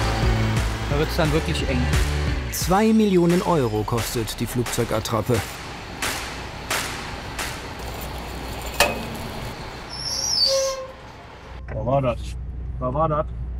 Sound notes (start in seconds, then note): 9.8 loud squeak